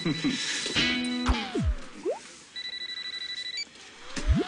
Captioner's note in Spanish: Suena el celular